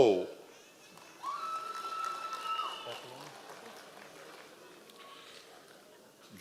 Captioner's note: members of the audience cheering